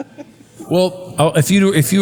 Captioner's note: laugh